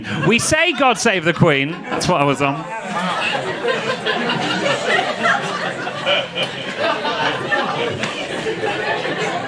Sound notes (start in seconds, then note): 3.1 audience laughing